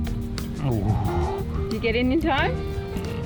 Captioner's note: sighs